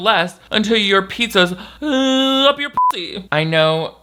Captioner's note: beep